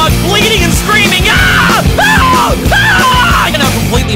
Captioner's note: hysterical, disjointed screaming